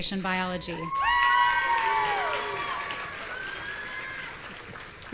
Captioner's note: audience cheering